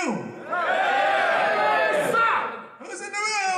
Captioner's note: cheering